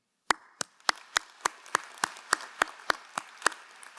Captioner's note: crowd applauding